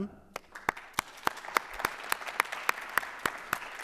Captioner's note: applause